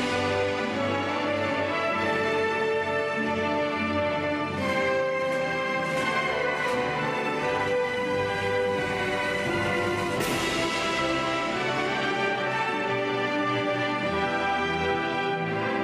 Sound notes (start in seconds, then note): none